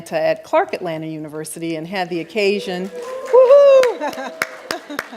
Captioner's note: clapping